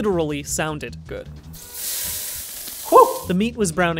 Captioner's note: pan sizzling